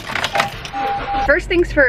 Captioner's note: car starts